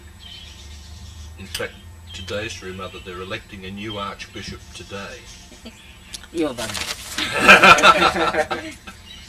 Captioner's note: laughter